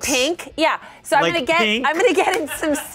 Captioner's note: laughs